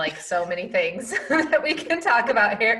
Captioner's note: laughs